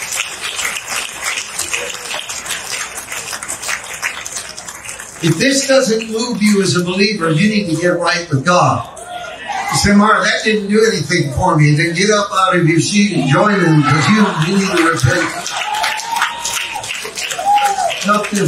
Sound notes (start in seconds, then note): 9.3 congregation amens; 15.4 congregation cheering and clapping